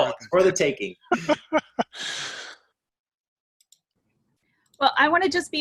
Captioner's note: laughs